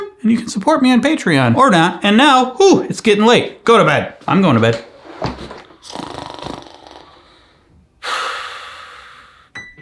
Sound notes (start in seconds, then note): 4.7 chair reclining; 5.8 pretending to snoring